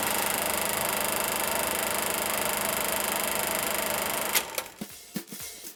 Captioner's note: vintage camera rolling